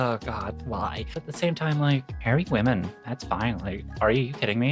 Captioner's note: none